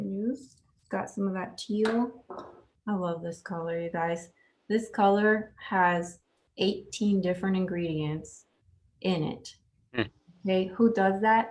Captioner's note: chuckles